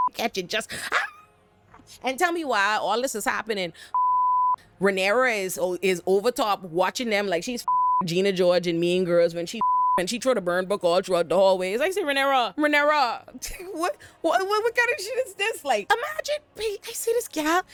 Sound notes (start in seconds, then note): 0.7 laughs